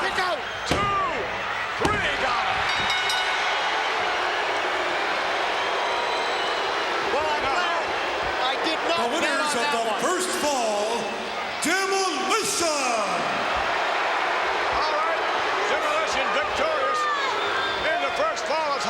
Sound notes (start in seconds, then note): 2.5 bell rings; 2.9 audience booing; 13.6 audience booing